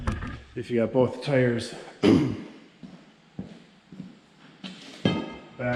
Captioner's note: clears throat